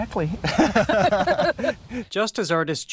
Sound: both laughing

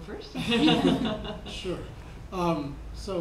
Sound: laughing

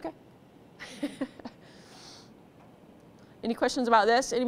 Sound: laughs

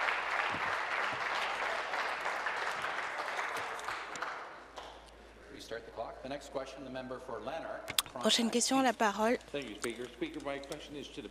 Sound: applause

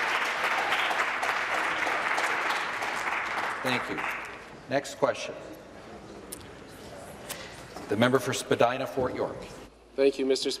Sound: applause

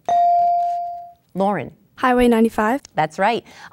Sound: dinging

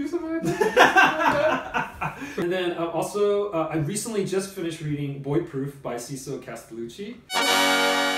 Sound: laughs

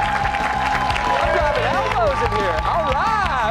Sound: cheers and applause

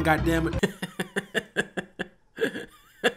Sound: laughing

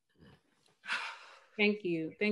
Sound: sigh

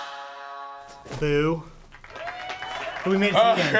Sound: tempo slows down; in game: applause; laughter

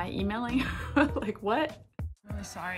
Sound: laughs

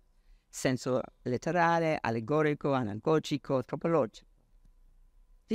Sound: speaks foreign language

